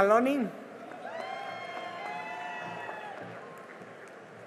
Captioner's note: cheering and applause